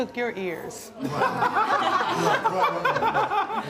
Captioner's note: laughs